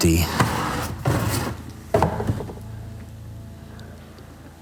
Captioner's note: boxes scraping